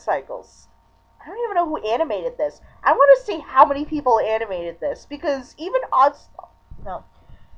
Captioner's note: stammers